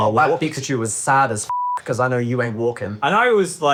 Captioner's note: beep